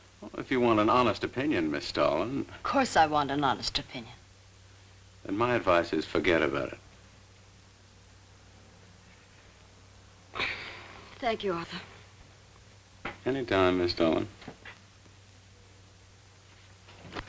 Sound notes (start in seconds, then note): 10.3 sighs